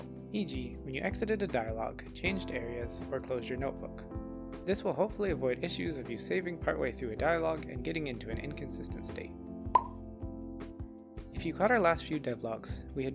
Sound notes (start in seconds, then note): 9.7 pop